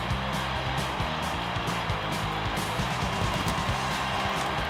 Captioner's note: rock music; applause